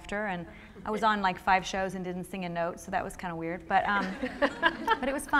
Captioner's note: laughter